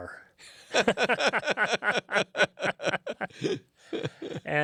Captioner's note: both laughing